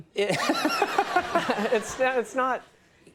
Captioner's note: Conan and audience laughs